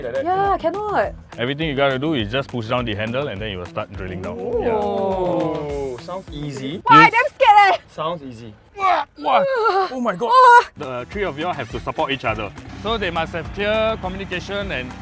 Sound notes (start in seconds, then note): 8.8 constipated noises